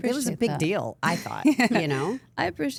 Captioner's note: AJ laughing